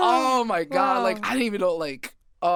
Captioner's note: chuckles